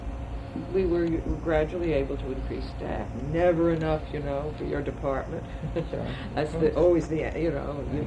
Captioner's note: laughs